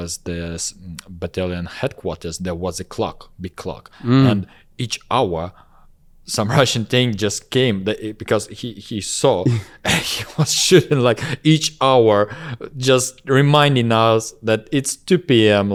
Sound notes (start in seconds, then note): 9.4 laughs